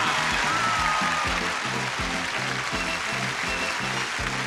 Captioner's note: audience cheering